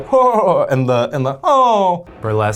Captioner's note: vocalizes